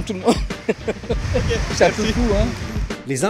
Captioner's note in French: rires